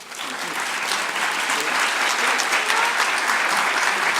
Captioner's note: audience clapping